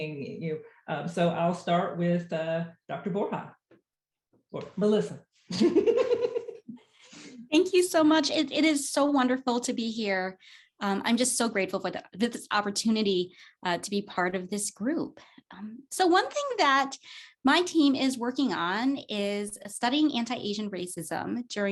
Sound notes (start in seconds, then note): 5.6 laughs